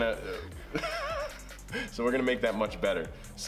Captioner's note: laughing